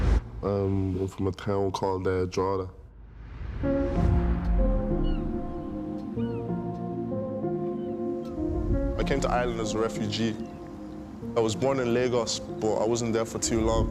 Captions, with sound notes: Um, I'm from a town called Drogheda. (gulls squawking) I came to Ireland as a refugee. I was born in Lagos, but I wasn't there for too long.